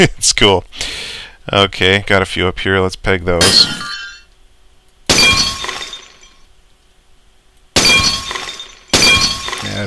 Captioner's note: more shots and breaking pottery